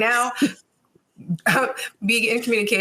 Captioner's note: chuckling